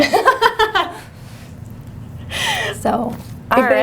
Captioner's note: laughter